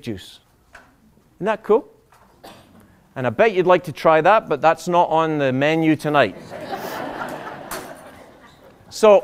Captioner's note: laughter